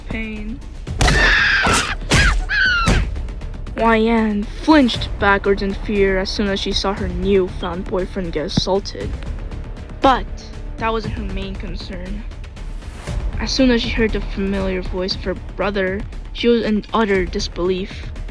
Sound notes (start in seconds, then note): 1.0 screaming and Punching Noises